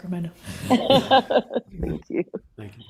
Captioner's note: laughter